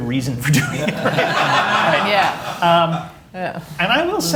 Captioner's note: laughter